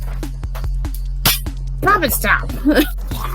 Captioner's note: top pops; laughs; chuckles